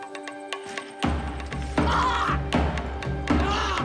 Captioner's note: shouting